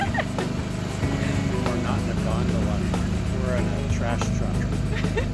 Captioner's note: laughing